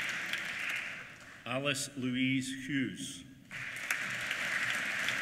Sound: applause

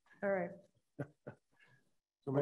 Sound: laughs

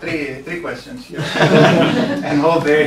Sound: laughter

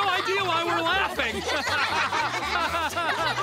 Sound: laughing

